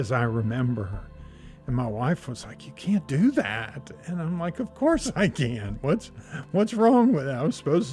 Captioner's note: laughs